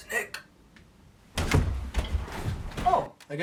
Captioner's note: thudding